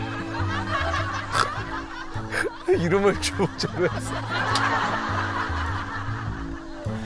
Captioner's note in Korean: 웃음소리